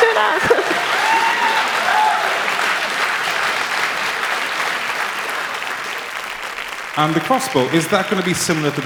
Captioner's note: applause